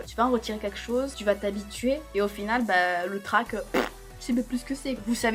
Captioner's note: poof